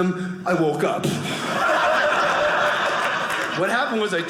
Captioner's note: audience laughing